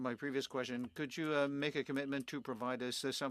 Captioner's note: speaking French